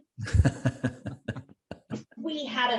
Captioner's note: laughs happily